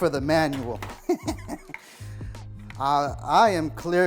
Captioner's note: laughs